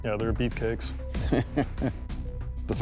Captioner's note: laughs